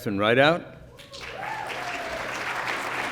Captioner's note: applause